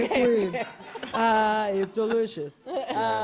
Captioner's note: laughter